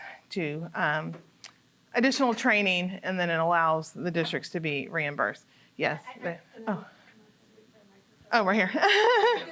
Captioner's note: laughter